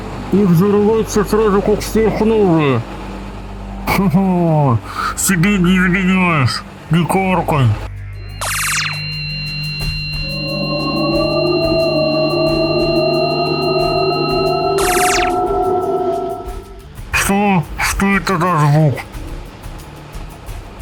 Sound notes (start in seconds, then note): 8.1 portal squeak; 8.3 energy bursts; 8.4 box engines howl